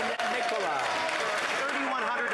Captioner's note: some Applause